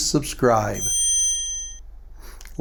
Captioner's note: bell ringing